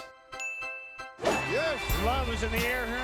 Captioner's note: bell dinging